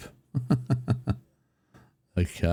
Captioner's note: laughs